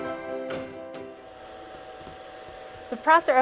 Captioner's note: machine running